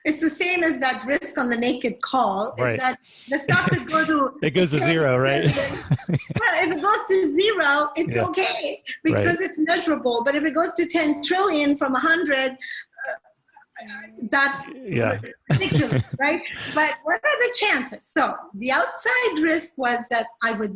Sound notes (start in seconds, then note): 4.4 laughing